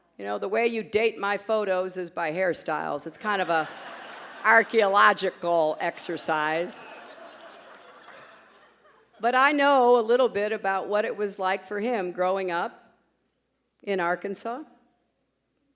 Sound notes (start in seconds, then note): 3.2 laughter; 15.3 pause